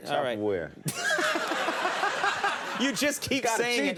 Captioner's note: Conan and audience laughing